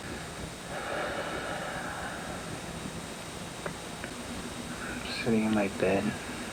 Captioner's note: deep exhale